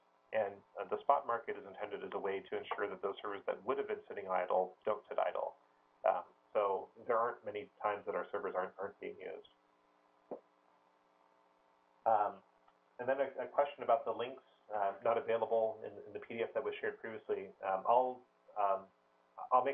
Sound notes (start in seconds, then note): 9.6 pause